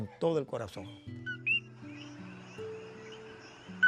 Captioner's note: sound of a Coqui